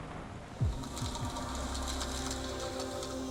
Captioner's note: underwater echoes and faint music